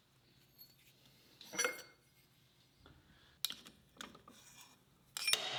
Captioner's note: metal scrapes; wench clangs